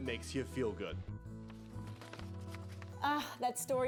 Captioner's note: paper crinkles